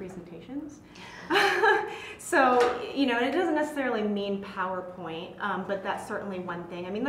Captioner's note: laugh